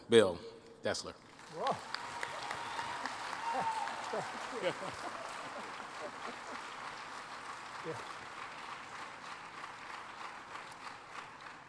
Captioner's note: applause